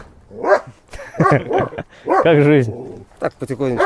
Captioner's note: laughing